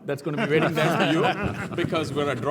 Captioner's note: laugh